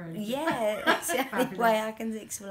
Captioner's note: laughter